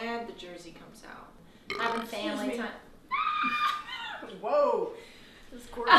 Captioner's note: burps